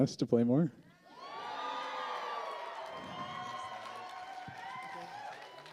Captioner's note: cheers